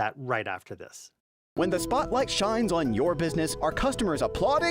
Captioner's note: voice-over